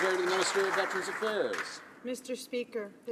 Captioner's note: some Applause